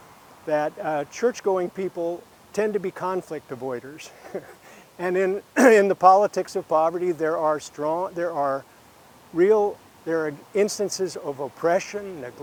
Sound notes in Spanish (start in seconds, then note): 4.0 risas